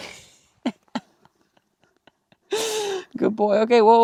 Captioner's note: laughs